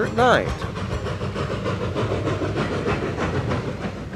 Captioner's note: train whirs